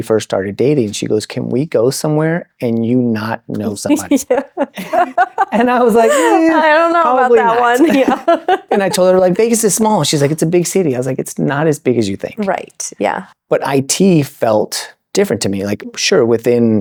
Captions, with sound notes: first started dating, she goes, can we go somewhere and you not know someone? (laughing) And I was like, I don't know about that one. Probably not. And I told her, like, Vegas is small. And she's like, it's a big city. I was like, it's not as big as you think. Right, yeah. But IT felt different to me. Like, sure, within